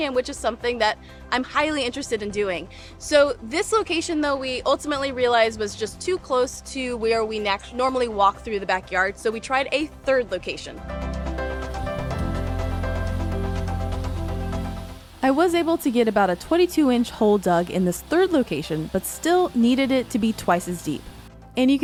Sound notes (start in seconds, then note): 11.0 upbeat music continues; 11.6 digger whirring